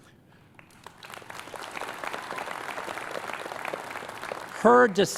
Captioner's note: applause